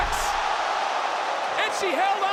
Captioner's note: audience cheers